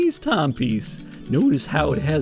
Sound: timepiece ticking

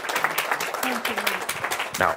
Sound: audience applause

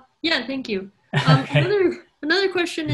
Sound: man laughs

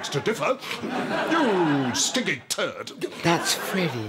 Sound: sniffs

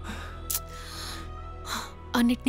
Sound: clicks tongue

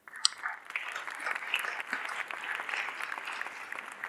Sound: audience applauding

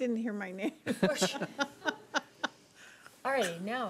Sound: laughing

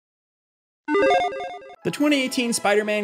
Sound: electronic chiming

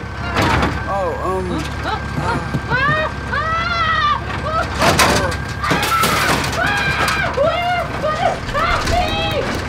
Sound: screams

